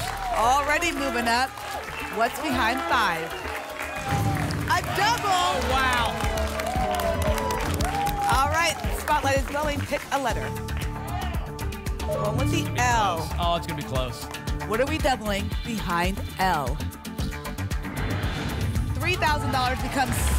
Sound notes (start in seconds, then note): 3.9 booms; 7.1 applause and cheering; 11.0 audience shouting letters; 17.8 whoosh